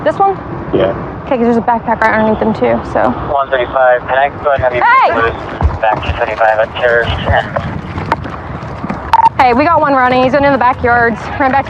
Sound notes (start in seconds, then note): 5.5 radadio c chahatter